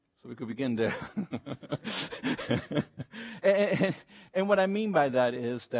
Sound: laughs

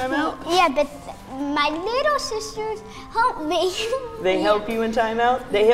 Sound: laughs

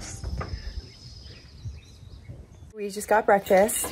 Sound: birds chirping

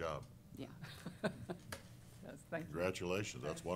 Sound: chuckles

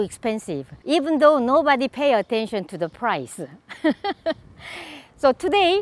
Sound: laughs

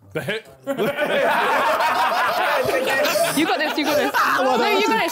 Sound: laughing

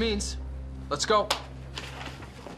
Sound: clapping of hands

